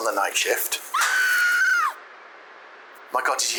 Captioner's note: distant scream